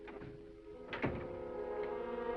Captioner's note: gentle music; door latches